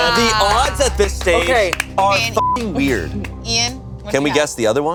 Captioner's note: beep